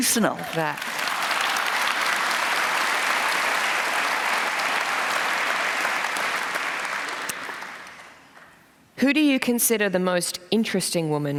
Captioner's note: applause